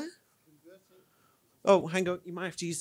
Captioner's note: speaks faintly